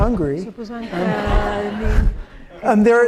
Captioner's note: laughter